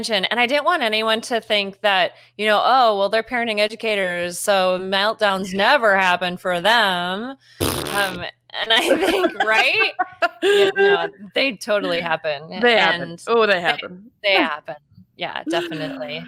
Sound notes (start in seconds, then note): 7.6 blows raspberry; 8.7 both laughing